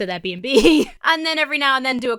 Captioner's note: laughs